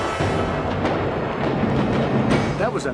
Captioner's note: explosives booming